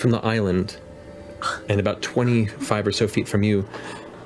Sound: scoffs

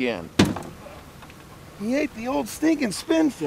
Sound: thunk

